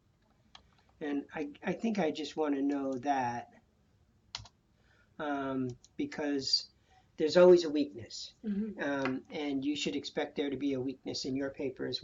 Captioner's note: typing